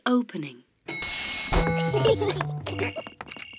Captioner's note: elevator bell dings; kids giggling